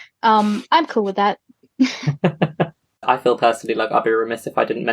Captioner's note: laughs